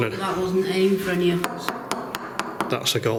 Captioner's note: golf ball loudly knocking